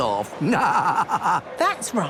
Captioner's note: laughing